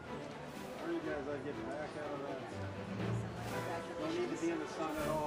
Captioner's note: provost speaking faintly